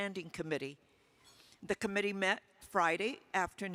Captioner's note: utensil clinking